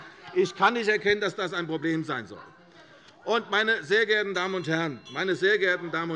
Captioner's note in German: Unruhe - Glockenzeichen der Präsidentin